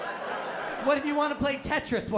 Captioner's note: laughter